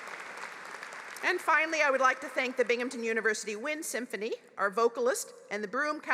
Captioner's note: applause